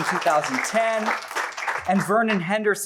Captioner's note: applause